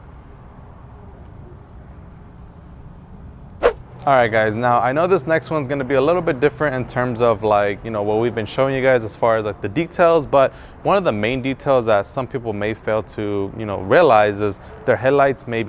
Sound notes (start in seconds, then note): 3.6 whoosh